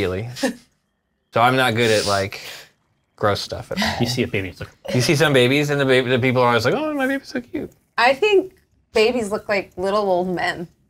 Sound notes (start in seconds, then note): 4.7 sickly groan